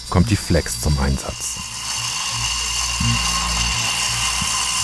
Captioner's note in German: kratzendes Maschinengeräusch